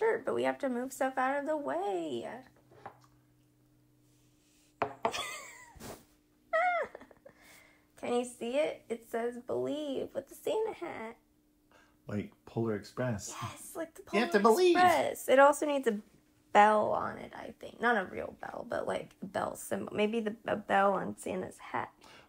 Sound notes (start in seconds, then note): 13.7 in annoying kid voice